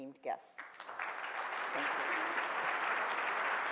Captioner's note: audience claps